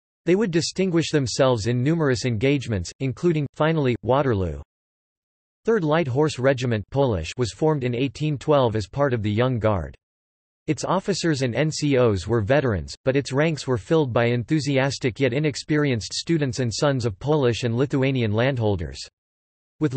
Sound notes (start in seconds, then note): 7.0 Polish